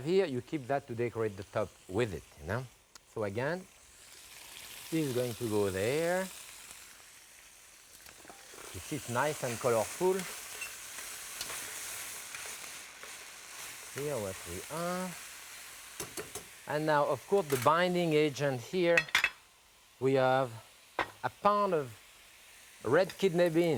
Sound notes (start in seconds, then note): 12.0 food sizzling